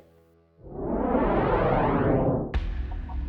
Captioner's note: whoosh